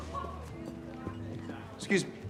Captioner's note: background chatter